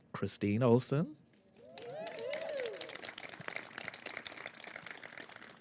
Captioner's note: applause